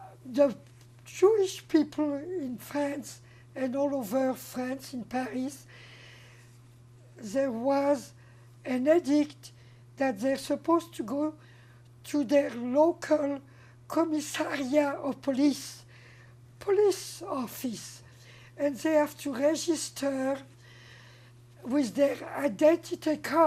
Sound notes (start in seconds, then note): 13.6 french